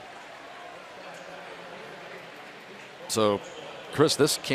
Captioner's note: pa announcement